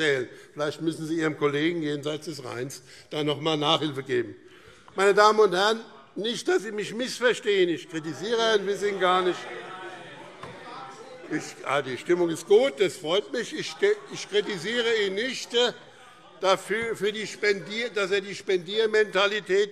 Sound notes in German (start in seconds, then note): 10.3 Zurufe Freie Demokraten und SPD: Nein! - Weitere Zurufe